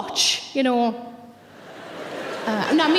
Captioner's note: audience laughing